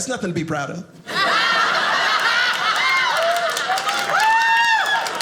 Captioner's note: audience laughing